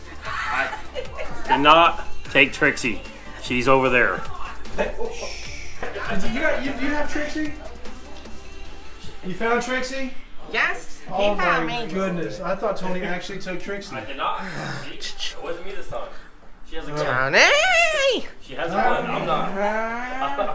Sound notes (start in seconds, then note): 0.0 laughs; 5.0 shushes